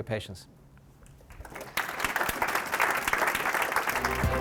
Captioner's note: applause